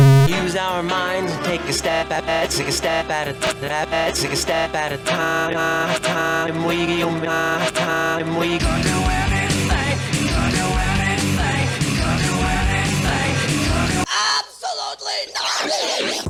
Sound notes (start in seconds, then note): 0.0 distorted bassy sound; 3.6 buzzing and reversing; 14.1 male voice, distorting